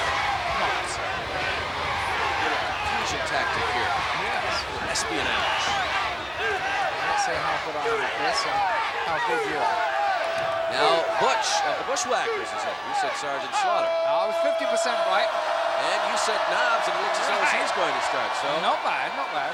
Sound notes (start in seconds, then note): 14.9 crowd cheering